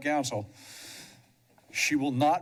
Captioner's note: pause